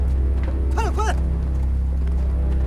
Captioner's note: Chinese language